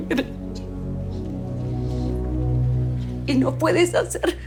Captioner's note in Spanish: Sollozos